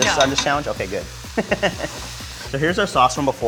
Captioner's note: laughs